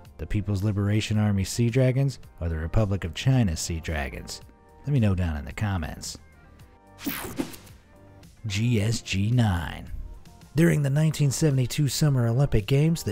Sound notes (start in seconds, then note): 7.0 light swishing